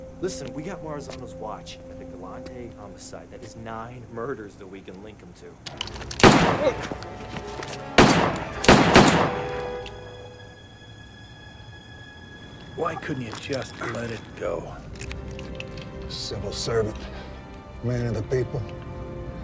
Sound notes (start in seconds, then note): 6.0 gun firing